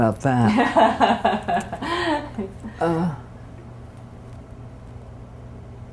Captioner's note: laughter